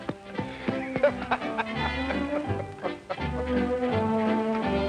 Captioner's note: jolly laughing